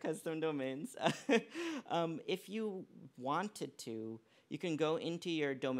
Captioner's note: laughs